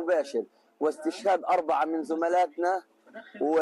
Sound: speaking in a global language

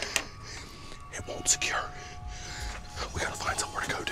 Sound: whispering

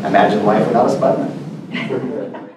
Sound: laugh

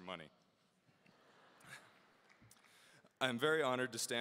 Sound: audience laughing

